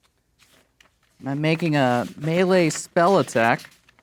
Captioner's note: pages rustling